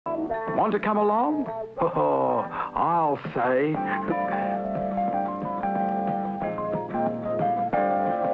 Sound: laughs

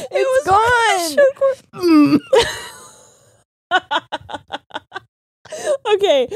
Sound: grunts; both laughing

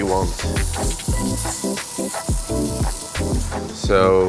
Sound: veggies sizzling; upbeat music

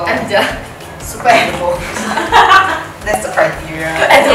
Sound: laughs

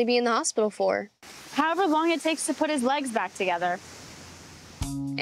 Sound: none

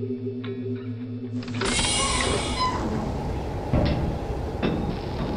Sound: hatch opens

